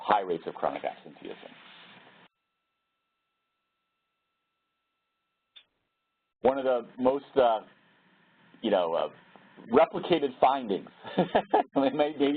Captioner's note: laugh